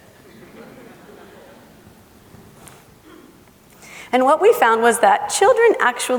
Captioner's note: laughing